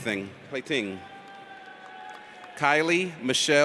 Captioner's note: audience cheers